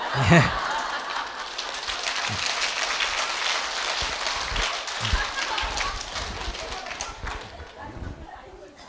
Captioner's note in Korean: 박수